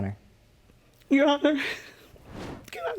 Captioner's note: voice breaking